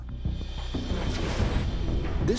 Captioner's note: whoosh